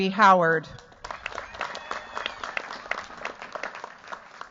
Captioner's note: cheers, applause